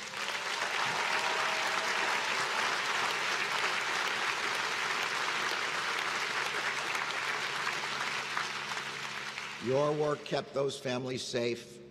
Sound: applause

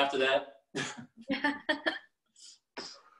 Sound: laughing

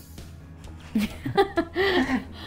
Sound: laughter

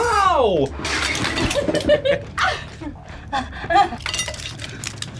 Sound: both laugh

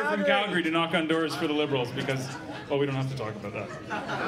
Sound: laughter

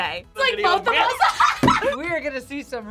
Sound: both laugh

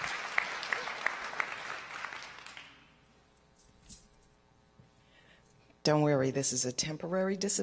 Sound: applause

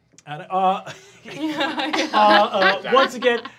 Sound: laughing

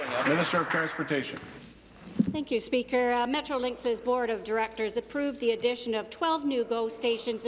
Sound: applause

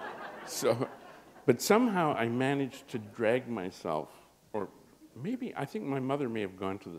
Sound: laughter

